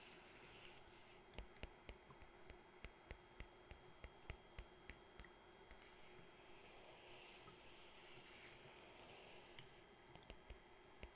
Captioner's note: scratching and tapping book cover